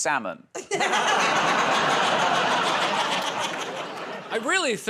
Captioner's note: laughter